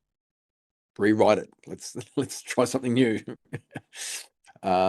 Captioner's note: chuckles